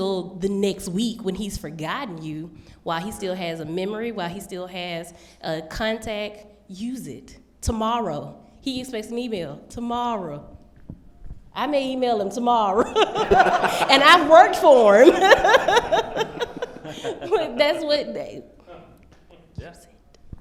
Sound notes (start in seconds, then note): 12.8 laughter